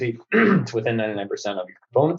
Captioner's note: clears throat